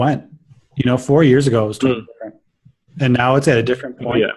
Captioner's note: signal breaks up